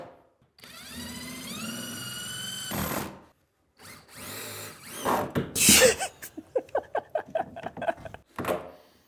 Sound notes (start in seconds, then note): 5.6 laughs